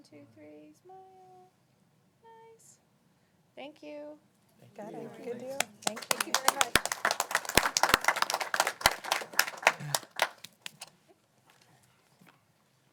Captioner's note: applause